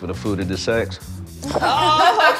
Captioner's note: laughter